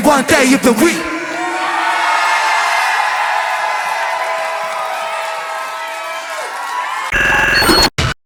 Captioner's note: crowd cheers